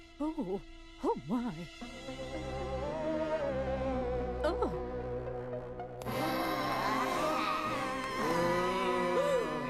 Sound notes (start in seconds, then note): 6.0 groaning; 8.4 gasps